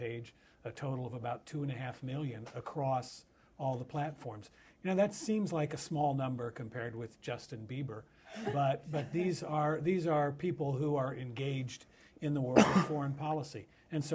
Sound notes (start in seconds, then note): 8.4 laughter